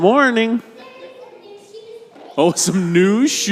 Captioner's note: child calling out